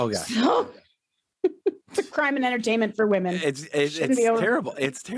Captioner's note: laughs